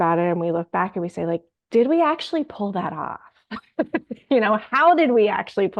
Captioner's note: laughs